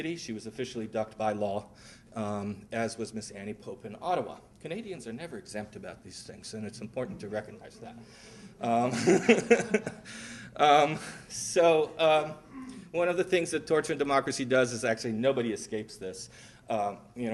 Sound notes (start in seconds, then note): 8.8 laughter